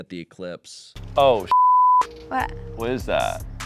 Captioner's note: beep